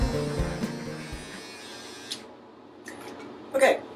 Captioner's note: razor buzzing